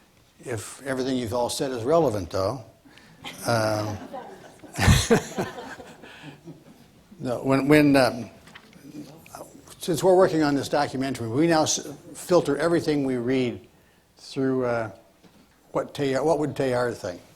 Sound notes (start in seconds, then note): 5.2 laughs